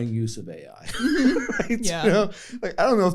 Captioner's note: laughter